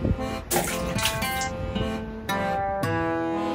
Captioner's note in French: Splash sound